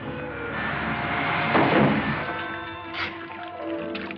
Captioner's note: loud thud; liquid splashing